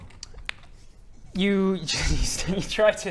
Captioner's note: laughs